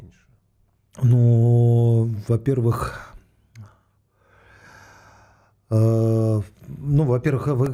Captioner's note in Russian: вздыхает